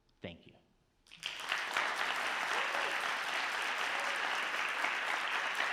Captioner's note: audience clapping